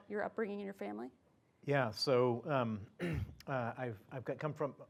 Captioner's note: cough